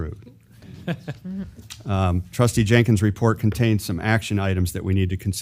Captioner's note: laugh